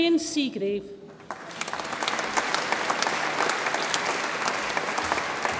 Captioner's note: audience applauds